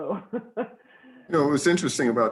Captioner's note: laughing